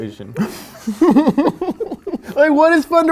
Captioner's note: keeps laughing